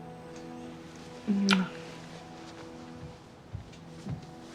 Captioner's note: Mary smooches